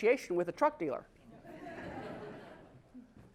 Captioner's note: laugh